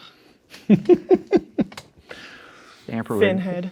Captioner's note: laughing